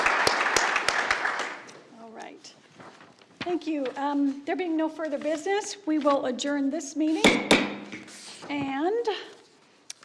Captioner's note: applause